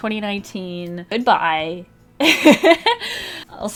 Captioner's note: laughs